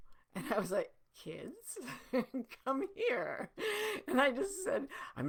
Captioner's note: giggling